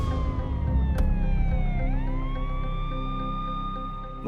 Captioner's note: dramatic music plays; siren wailing